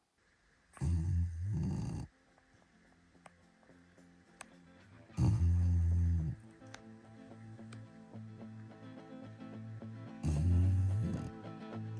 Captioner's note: bugsy snoring